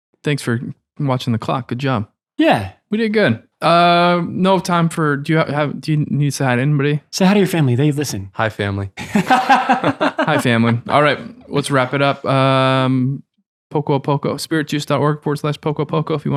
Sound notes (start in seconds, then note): 9.0 innocent laughing